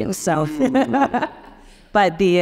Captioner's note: laughing